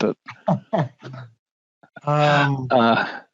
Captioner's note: laughing